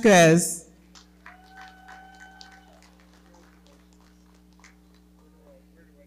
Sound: audience cheering and clapping

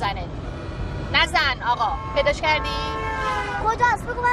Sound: car horn honking

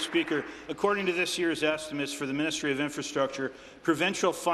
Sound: applause

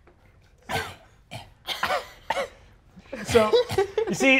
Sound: coughing

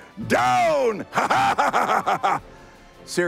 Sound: laughing

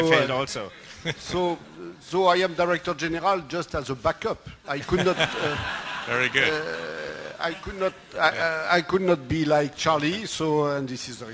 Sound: laughter

